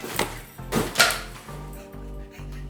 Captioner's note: hitting noise